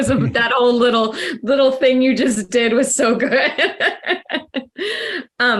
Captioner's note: laughs